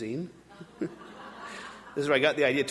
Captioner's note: audience laughing